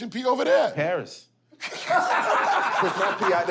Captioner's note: laughter